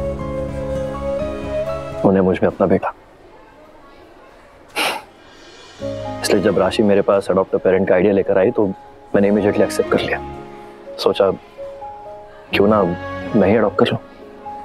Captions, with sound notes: they used to see their son in me. [sighs] That's why when Rashi came to me with the idea of adopt a parent I immediately accepted it. I thought, why don't I adopt her.